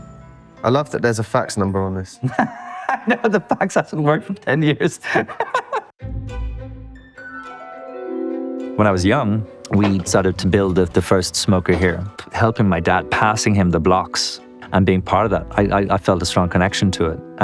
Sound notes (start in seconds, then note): 2.3 laughing; 6.4 quirky music